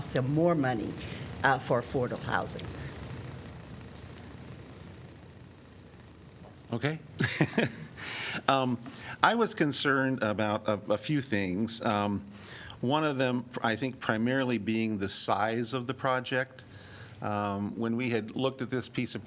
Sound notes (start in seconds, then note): 7.2 laughter